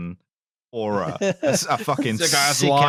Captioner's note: laughs